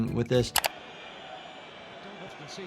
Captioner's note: keyboard clicking